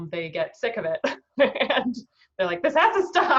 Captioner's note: laughing